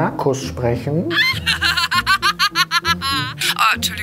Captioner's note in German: Schrilles Lachen aus dem Telefon